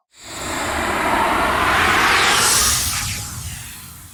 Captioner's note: whooshing